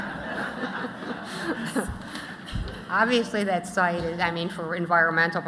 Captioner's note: laughter